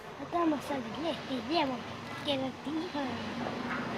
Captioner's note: foreign language